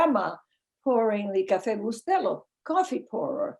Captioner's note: speaking in foreign language